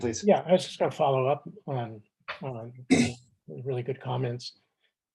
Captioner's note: clears throat